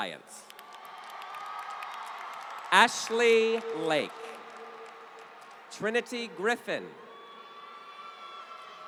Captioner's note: applause